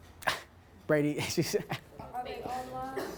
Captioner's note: laughs